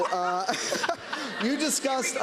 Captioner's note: laughter